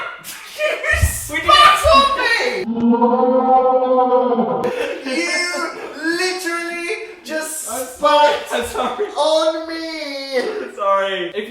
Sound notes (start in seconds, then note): 0.0 laughing; 4.6 laughing